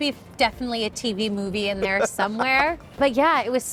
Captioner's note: laughing